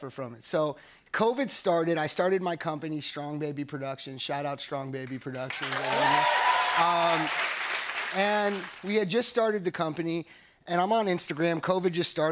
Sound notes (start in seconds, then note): 5.4 cheers and applause